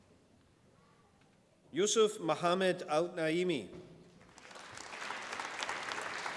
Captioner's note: applause